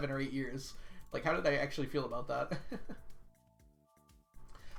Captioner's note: laughs